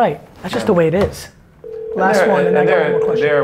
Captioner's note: phone rings